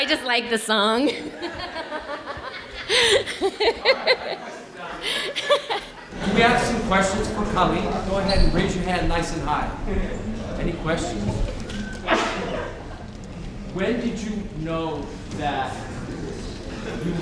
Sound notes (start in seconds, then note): 2.5 audience laughing